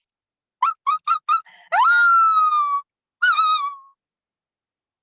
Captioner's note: screaming